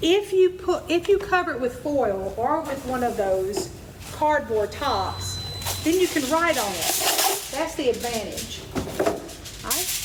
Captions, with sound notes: If you cover it with foil, or with one of those cardboard tops, then you can write on it. (foil rasps) That's the advantage.